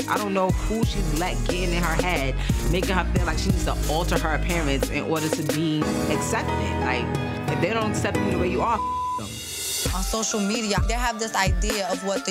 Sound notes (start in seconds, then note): 8.7 beep